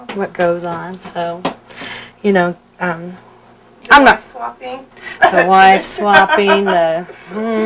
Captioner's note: laughter